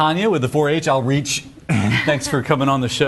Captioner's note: laughs